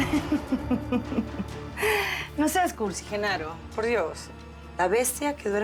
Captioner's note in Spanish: risas